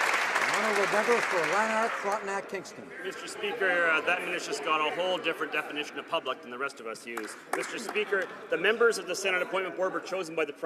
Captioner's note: some Applause